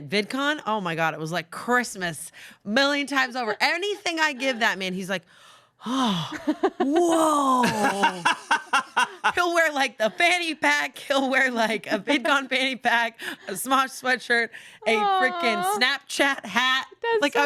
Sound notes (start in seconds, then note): 6.4 laughs